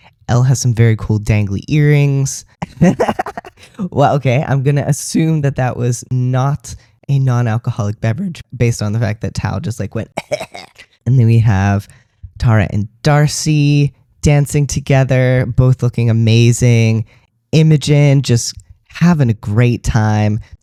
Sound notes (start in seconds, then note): 2.6 laughter; 10.1 cough